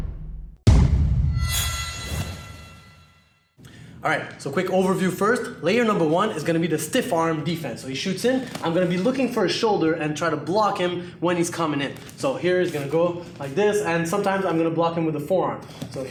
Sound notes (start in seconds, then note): 0.7 thump; 1.4 sharp bell ring